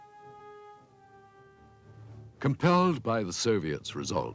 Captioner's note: speaks in foreign language